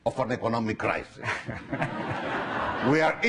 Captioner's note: laughing